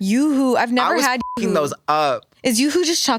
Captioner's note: beep